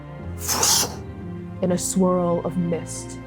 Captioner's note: whooshing